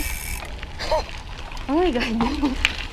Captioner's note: laughs